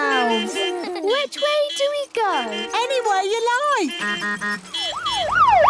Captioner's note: laughter; honking, siren wailing